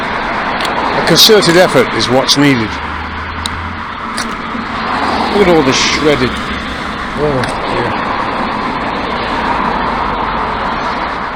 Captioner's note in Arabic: أصوات المرور